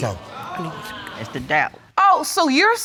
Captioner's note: audience gasps